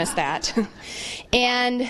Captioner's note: laughter